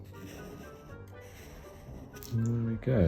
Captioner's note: pen scratching